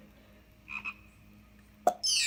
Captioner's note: ribbit